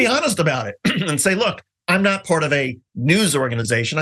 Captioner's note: cough